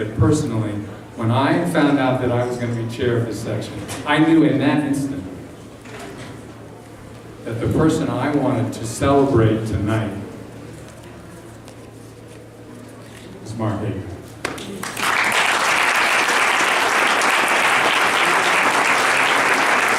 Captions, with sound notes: personally when I found out that I was going to be chair of this Section I knew in that instant that the person I wanted to celebrate tonight Is Mark Agrast *Applause*